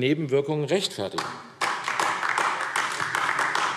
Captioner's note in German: Beifall AfD